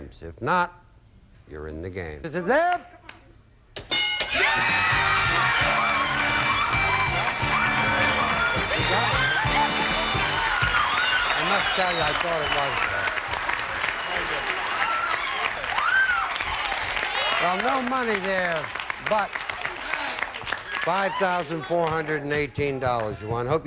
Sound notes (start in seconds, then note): 4.7 audience applauding